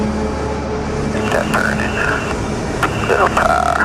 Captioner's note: male Speaker Over Radio